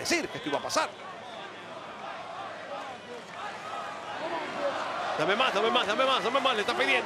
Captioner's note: applause